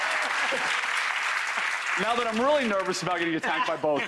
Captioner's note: audience applause